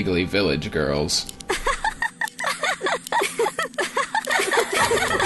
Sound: villagers giggling; giggling intensifies

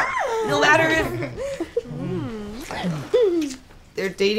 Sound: Lily squeals

